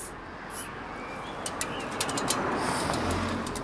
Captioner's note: approaching traffic noise